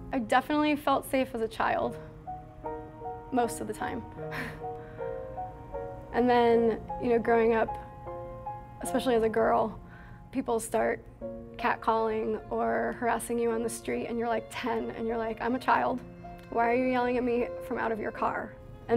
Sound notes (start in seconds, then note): 4.4 laughs